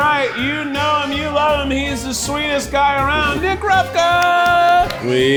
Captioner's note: claps